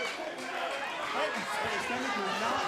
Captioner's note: crowd chatter